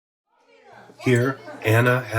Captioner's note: chatter